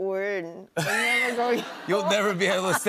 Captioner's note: laughter